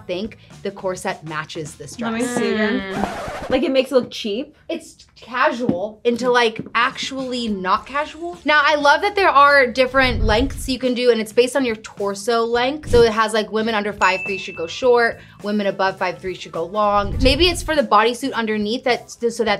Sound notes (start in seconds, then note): 2.2 record scratching